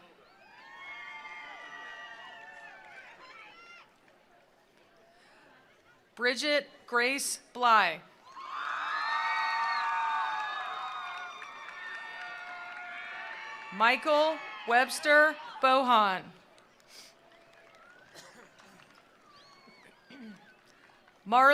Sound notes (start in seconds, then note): 0.1 attendees cheering; 0.6 attendees applauding; 8.2 attendees cheering; 8.3 attendees applauding; 16.4 attendees applauding